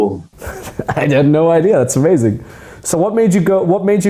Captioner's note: laughs